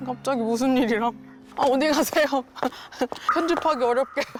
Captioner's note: Queen Gabee’s footsteps